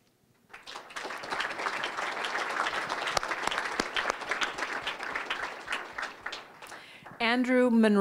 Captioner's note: applause